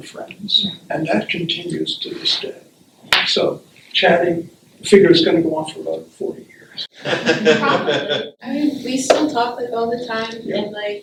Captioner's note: laughter